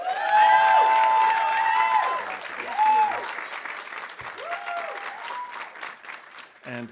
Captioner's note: audience cheering; audience applauding